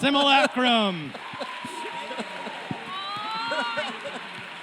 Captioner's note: cheering, applause